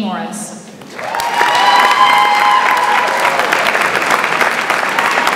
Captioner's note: audience applauds and cheers